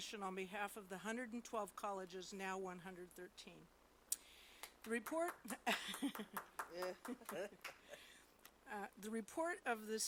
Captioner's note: applause